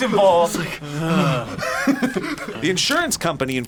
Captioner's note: both laugh